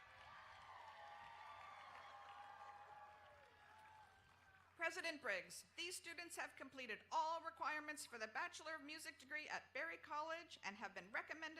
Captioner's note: applause